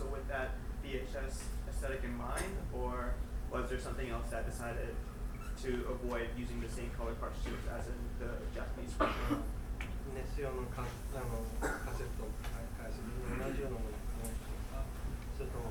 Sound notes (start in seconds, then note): 8.9 coughing; 10.3 speaking in foreign language